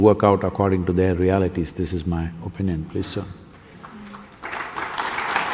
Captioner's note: applause